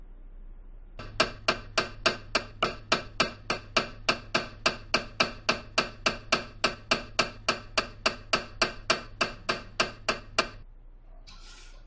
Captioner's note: MRI noises